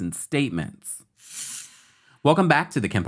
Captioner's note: graphics swish